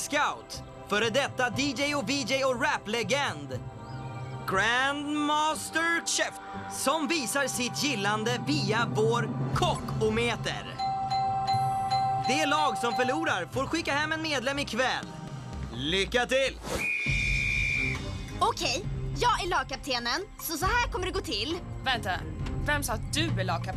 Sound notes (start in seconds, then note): 8.1 dinging; 16.7 blows whistle